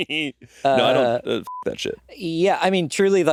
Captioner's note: beeping